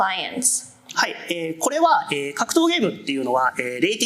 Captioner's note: speaking japanese